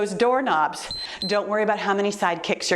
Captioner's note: timer beeps